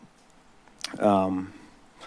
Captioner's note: smacks lips